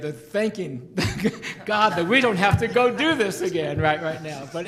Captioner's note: laughs